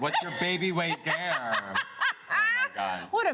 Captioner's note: laughs